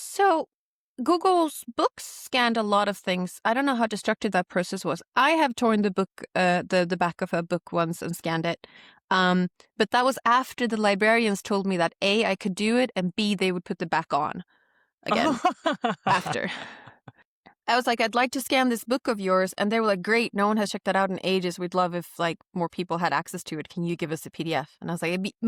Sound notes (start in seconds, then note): 15.0 laughs